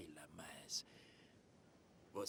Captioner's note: none